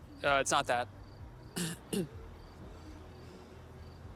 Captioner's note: clears throat